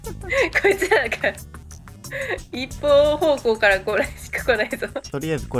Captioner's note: laughs